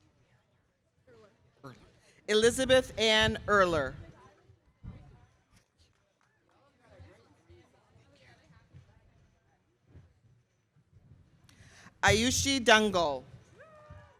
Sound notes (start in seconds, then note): none